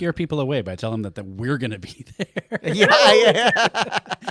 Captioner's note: laughing